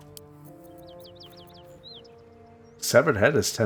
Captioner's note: silence